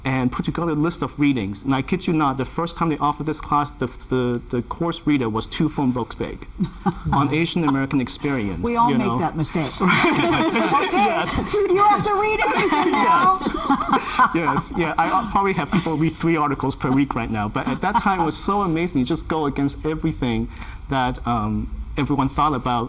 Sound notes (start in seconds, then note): 9.6 all laughing